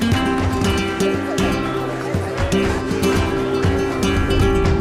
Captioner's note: people chattering